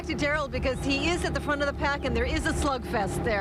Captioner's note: boat engine running